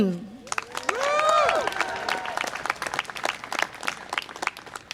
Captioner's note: audience applause and cheer